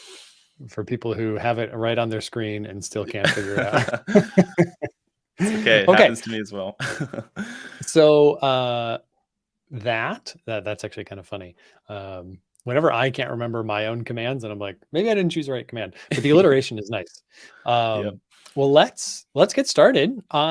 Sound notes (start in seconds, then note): 3.1 laughter; 6.8 laughs